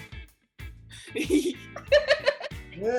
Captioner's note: giggles